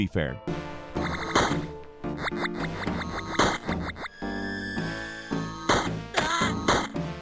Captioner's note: weapon popping